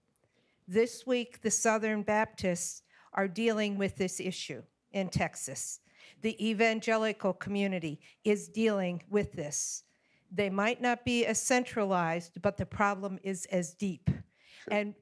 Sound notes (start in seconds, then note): none